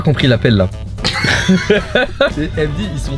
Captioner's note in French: rires